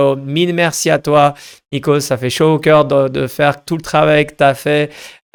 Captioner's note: speaking in foreign language